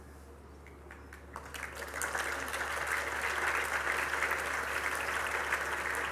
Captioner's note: Applaus